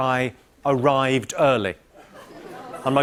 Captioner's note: light laughter